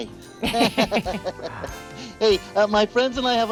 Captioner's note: laughs